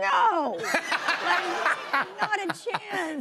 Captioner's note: laughter